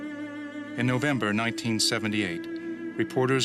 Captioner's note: voiceover